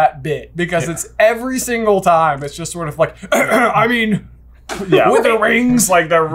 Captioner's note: cough cough